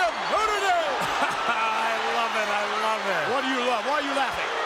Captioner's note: laughs